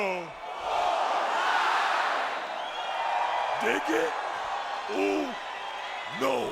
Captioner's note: applause